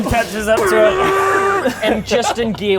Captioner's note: vroooooooomm!